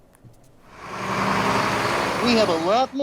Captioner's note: bus engine